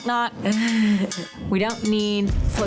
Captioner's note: laughing